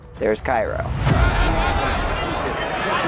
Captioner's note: crowds shouting